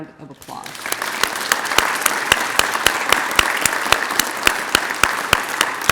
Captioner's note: applause